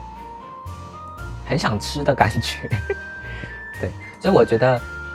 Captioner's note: haha